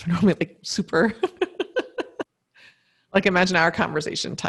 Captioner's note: laughs